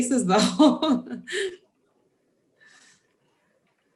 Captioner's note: laughs